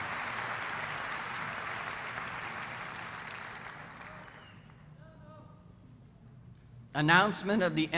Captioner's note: applause